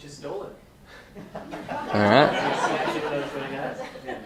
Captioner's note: laughter